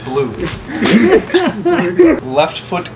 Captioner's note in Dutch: Gelach